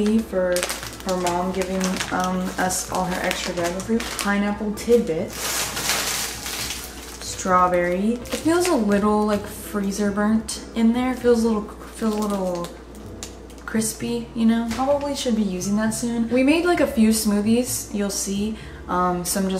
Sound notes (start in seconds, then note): 6.4 bag crinkling